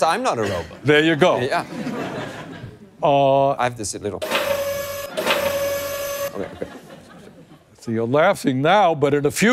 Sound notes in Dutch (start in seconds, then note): 5.7 machinaal, robotachtig geluid